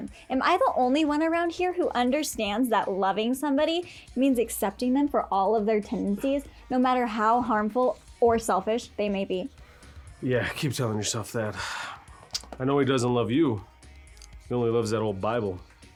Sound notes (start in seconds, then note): 11.5 sighs